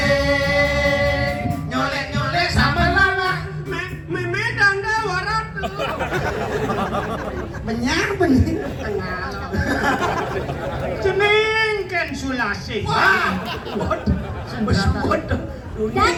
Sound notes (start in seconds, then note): 5.6 laughs